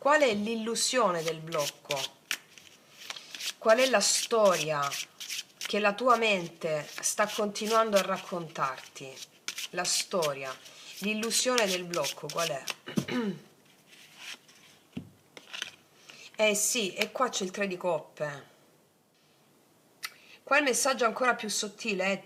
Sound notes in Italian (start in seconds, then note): 12.8 schiarire la voce